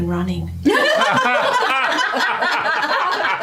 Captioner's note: laughter